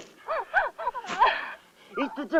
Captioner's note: crying